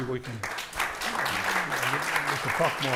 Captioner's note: audience applauding